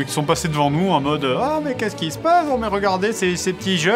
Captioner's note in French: voix de "vieux gâteux"